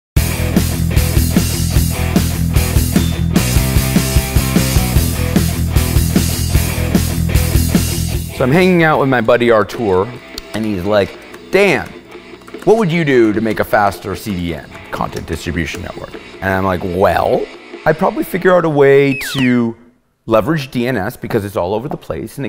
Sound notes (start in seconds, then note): 0.2 rock music; 8.6 voiceover